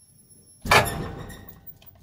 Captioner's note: bang!